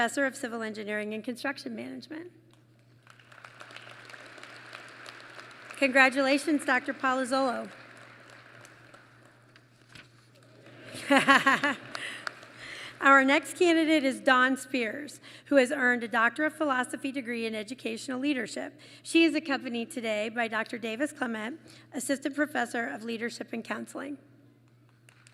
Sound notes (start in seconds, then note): 3.0 applause; 10.7 laughs; 25.1 applause